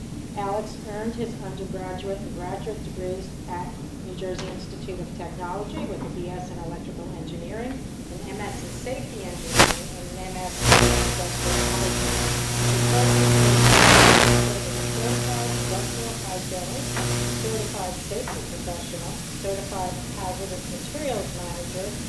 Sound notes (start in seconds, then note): 7.9 static; 10.8 electronic static